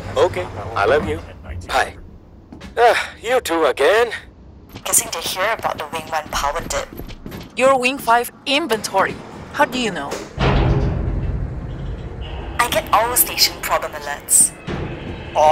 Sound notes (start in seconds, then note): 10.3 metallic boom; 10.3 metallic squealing